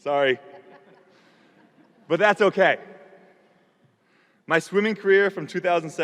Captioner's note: audience laughing